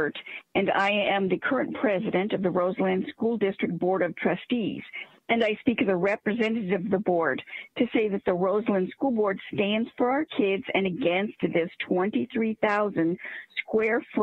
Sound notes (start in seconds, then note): 0.6 speaking Spanish